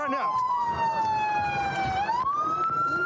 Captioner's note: sirens blaring